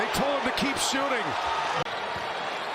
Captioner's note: cheers and applause